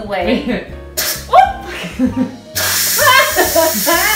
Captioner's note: yelps; laughs